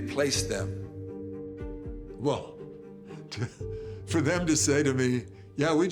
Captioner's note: chuckles